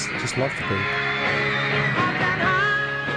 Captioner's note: crowd cheering